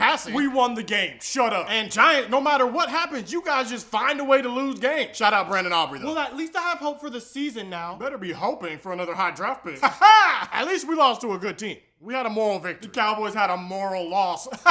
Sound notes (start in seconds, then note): 9.8 weird laughing; 14.5 weird laughing